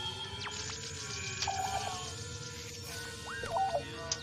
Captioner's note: Static